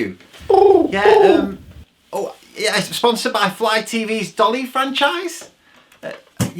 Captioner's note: pigeon coos